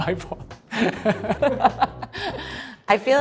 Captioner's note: laughs